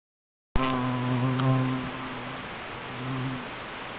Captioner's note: low moaning